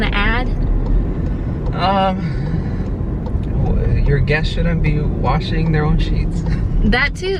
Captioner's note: inhales; laughs